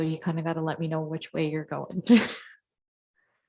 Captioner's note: chuckles